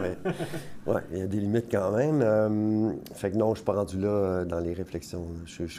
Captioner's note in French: rires